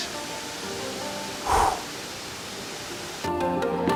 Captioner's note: exhales